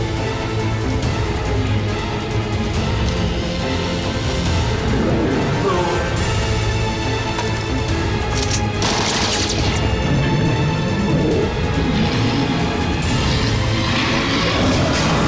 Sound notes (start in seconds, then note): 8.3 gun cocking; 8.4 gun blasting; 12.9 growling